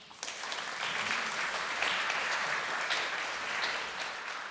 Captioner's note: applause